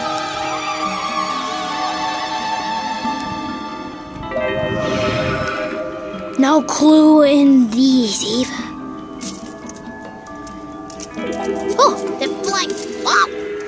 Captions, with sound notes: No clue in these either (plants rattling) Ohhh there flying